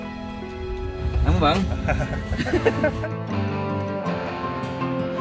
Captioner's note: laugh